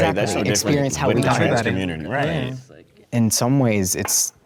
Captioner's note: excited group cross-chatter